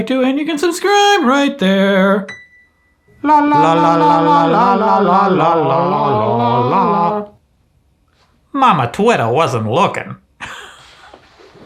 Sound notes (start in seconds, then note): 2.2 piano note plays; 3.5 sings duet; 10.4 laughs